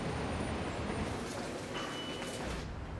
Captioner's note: beep of metro card swipe